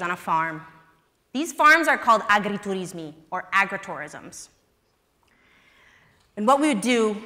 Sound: italian

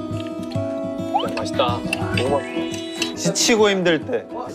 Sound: nom nom

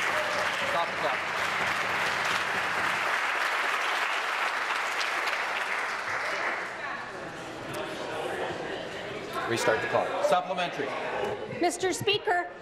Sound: some Applause

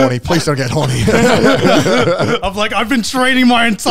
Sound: all laughing

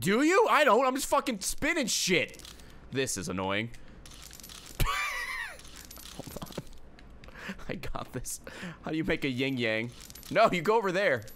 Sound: laughs

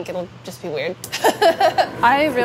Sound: laughing

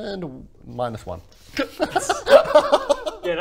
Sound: giggles

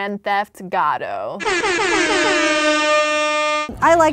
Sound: triumphant air horn noises

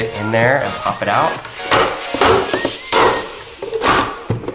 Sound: plastic clacks

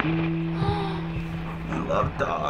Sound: gasps

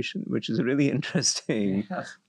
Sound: laugh

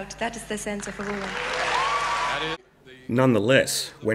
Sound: audience claps and cheers

